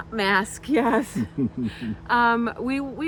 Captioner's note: laughs